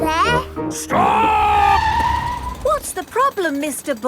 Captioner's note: tires screeching